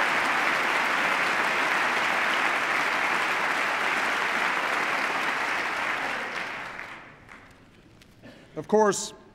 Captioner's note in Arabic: تصفيق